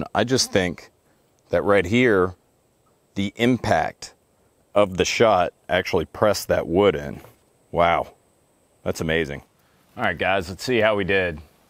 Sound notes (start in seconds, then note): none